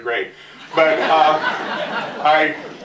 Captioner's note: laughter